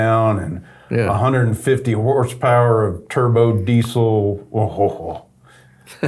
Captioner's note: chuckles